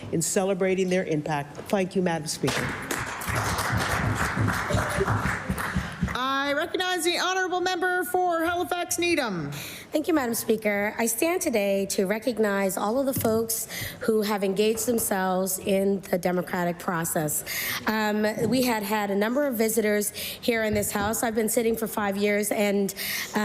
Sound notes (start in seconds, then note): 6.5 applause